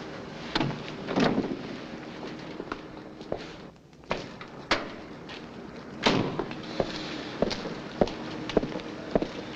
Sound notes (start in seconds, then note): 6.1 car door slams